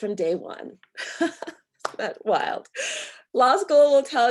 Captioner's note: chuckles